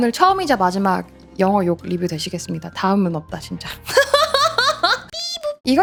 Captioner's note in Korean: 웃음